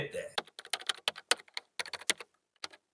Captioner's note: keyboard clicking